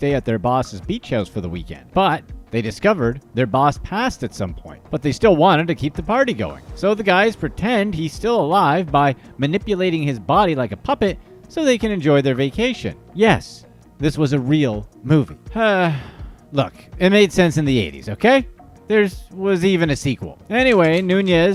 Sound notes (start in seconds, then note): 15.8 audible sigh